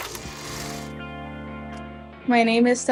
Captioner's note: projector whirs